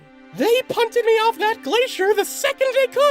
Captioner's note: none